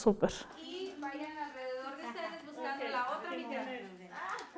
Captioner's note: participants are smiling, laughing